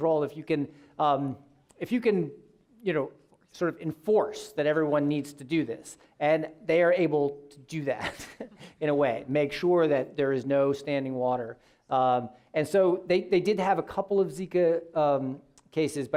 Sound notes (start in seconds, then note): 8.0 laughing